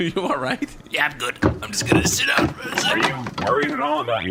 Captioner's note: strained; laughing